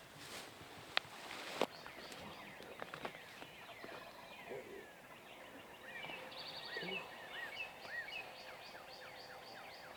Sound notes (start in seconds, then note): 5.0 birds tweet